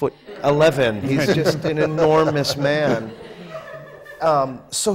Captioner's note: laughter